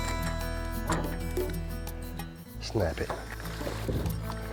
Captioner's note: upbeat music; water splashing